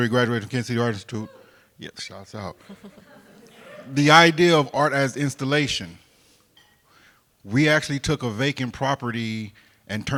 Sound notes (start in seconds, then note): 1.2 crowd member cheers; 2.5 crowd members laugh